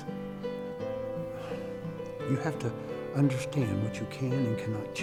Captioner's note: sighs